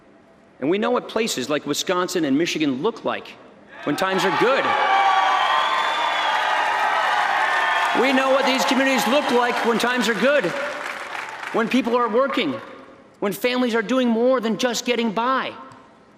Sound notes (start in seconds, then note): 7.2 applause